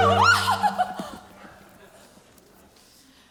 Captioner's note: screams